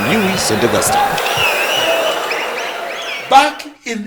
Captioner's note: wild applause and cheering for 22 seconds